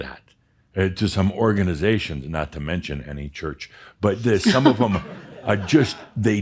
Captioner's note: some chuckles